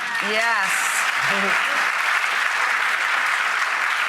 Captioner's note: applause